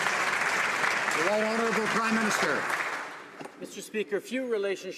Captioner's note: some Applause